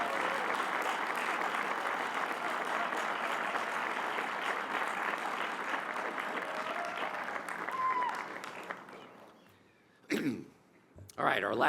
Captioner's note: applause